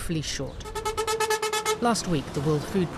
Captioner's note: truck honking